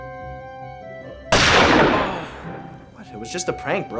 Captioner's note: groans; loud gunshot